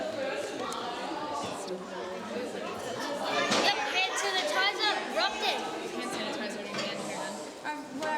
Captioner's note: chatter